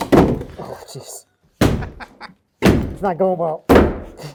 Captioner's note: laughing